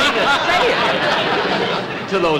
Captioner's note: audience Laughing